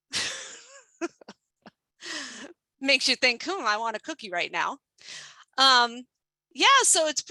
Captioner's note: laughs